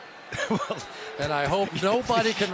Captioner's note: laughs